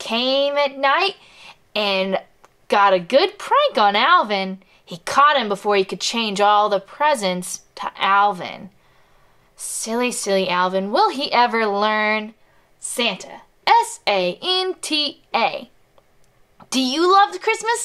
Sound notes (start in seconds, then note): none